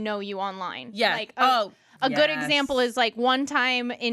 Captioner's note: none